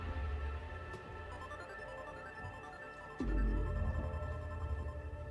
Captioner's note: phone rings